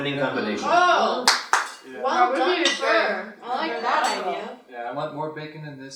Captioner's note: applauds